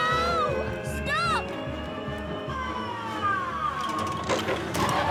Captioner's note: fork lift working